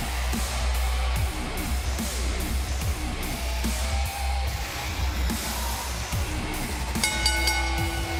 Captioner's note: bell ringing